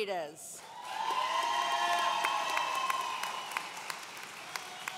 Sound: audience cheering

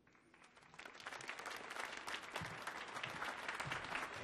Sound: applause

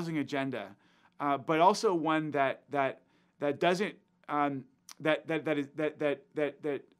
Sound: stuttering

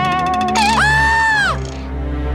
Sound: screams

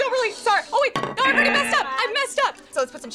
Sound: buzzer blaring

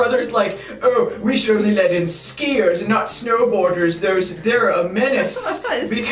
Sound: chuckles

